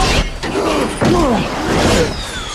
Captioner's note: Hartley grunts